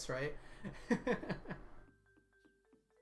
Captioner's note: laughs